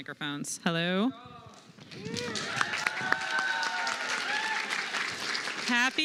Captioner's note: applause